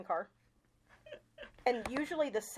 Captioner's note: chuckling